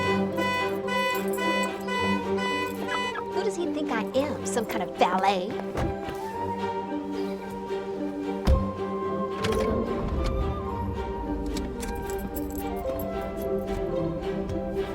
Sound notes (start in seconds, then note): 2.9 car alarm blares